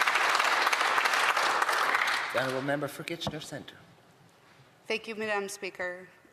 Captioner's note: applause